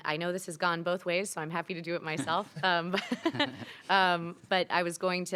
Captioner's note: laughs